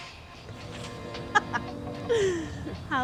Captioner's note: Louise laughs at Bird